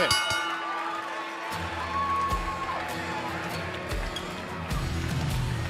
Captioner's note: bell ringing